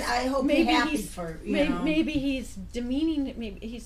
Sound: voiceover

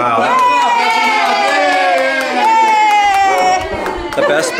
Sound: cheering

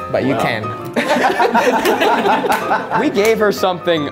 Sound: laughs

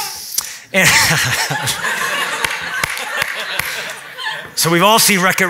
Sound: laughs

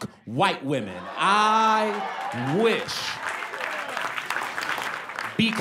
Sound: applause

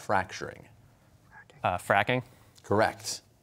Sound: whispering

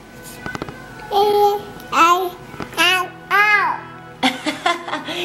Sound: baby jabbering

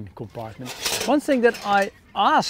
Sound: metal clinks

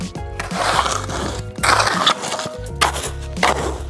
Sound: shovel scraping

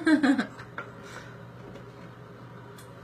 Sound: laughs

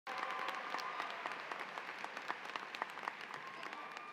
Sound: cheers and applause

